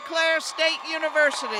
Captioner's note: cheers and applause